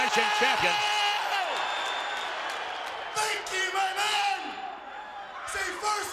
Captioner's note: applause